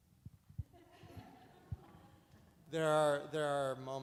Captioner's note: audience laughs